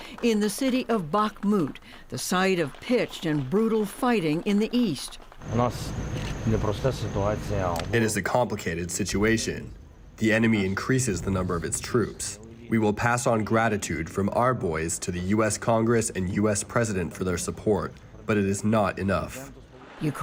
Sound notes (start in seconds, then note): 5.5 Volodymyr speaking in foreign language